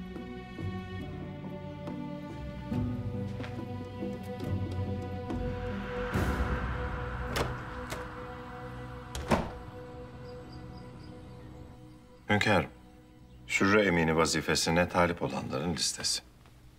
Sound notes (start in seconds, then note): 7.2 sound of door opening; 9.0 the door closing sound